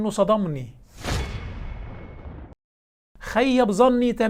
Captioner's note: sound effects